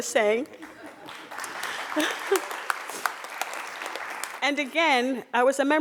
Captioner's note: crowd applauding